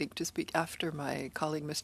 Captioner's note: speaking French